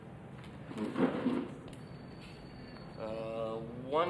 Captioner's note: chair creaking